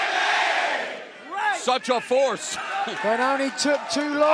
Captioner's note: fans chanting